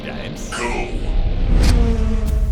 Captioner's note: robotic voice